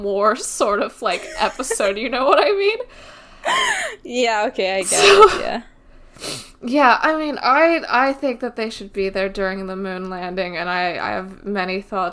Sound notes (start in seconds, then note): 1.1 laughs; 3.6 laughs